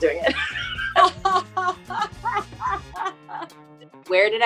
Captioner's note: women laughing